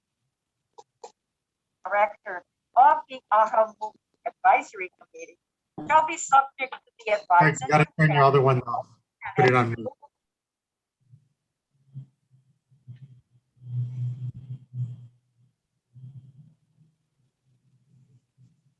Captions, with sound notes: (muffle woman speaking) - You've gotta turn your other one off, put it on mute.